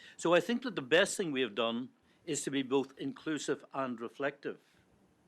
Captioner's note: none